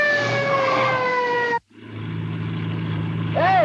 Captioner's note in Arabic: اصوات صرير الاطارات